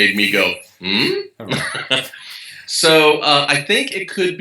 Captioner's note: laugh